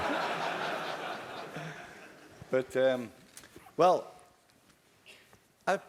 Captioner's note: laugh